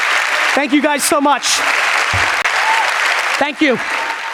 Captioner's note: audience applauds